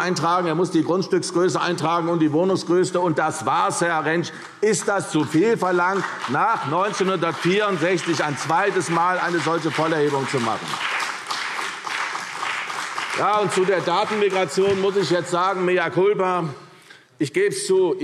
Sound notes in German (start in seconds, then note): 11.4 Beifall CDU und BÜNDNIS 90/DIE GRÜNEN